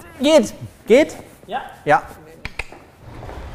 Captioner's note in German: schnalzt